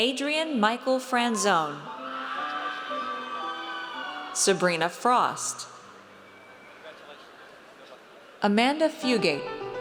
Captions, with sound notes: Adrian Michael Franzone. (audience cheers) Sabrina Frost. Amanda Fugate.